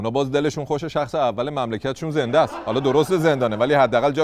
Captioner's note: laughter